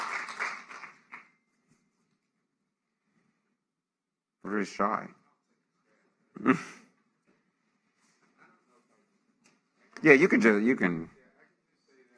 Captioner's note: applause